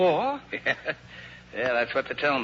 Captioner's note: laughs